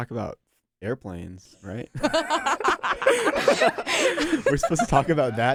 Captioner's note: laughs